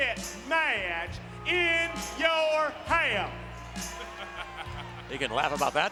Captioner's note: laugh